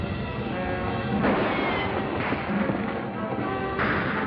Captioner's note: gunshots